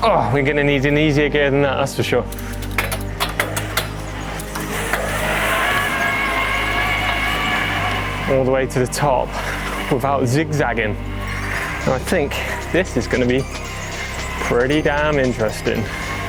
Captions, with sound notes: Oh, we're going to need an easier gear than that, that's for sure. (gears clacking) (wheels whirring) All the way to the top without zigzagging. I think this is going to be pretty damn interesting.